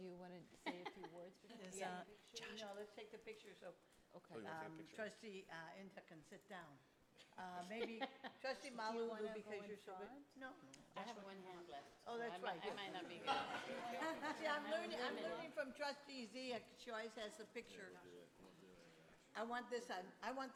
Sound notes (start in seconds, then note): 7.6 laughs; 12.7 people laughing